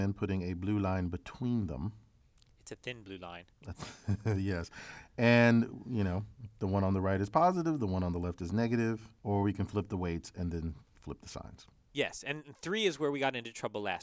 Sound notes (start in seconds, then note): 3.6 laugh